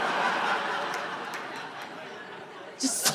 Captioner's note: audience laughing